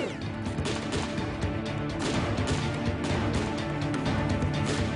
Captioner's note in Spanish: Disparos